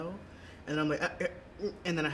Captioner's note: stutters